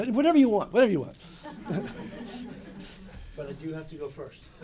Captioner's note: laughter